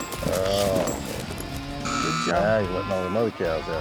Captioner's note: buzzer